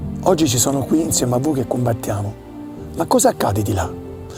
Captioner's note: speaking Italian